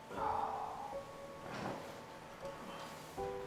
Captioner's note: sighs